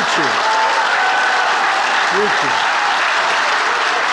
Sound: attendees applauding

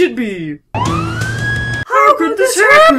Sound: police sirens blare

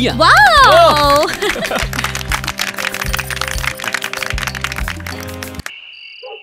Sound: applause

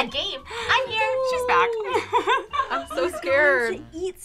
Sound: laughing

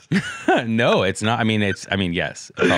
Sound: laughs

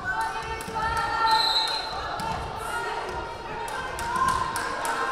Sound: whistle blaring

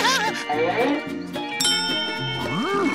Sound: dinging

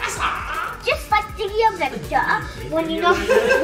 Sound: child babbling; laughing

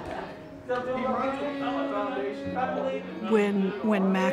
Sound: women laughs; women chattering

